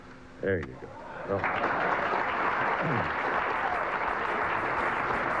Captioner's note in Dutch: publiek klapt